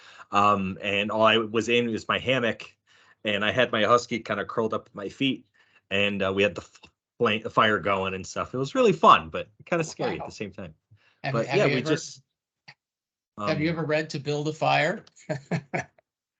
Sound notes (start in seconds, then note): 15.2 laughing